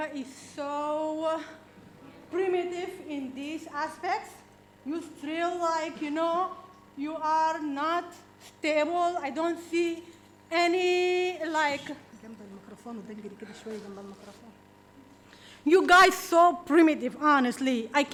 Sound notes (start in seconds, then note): 12.2 speaking in foreign language